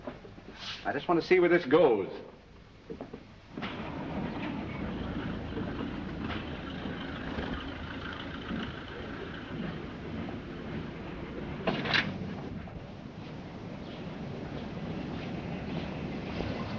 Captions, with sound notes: I just want to see where this goes. [car engine sputtering] [gate opens]